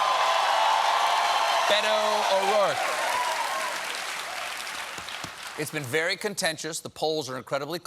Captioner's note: cheers and applause